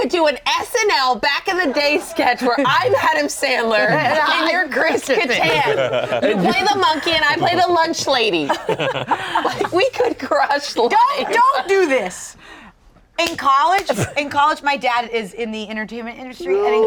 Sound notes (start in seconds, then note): 5.7 group laughing; 11.0 laughing